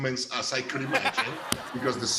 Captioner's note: laughter